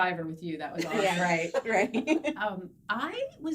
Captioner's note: laughing